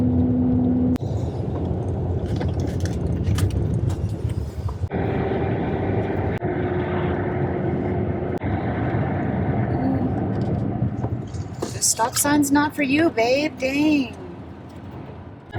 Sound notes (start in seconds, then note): none